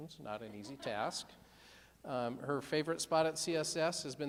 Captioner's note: laughing